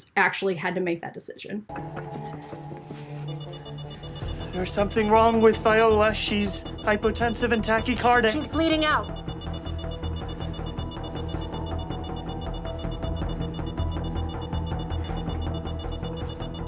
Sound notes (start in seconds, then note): 3.5 alarm beeping; 9.6 tense music